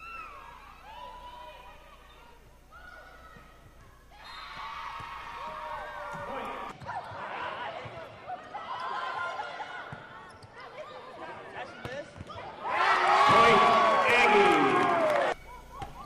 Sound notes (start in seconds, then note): 4.1 whistle blowing and cheering; 12.6 audience cheers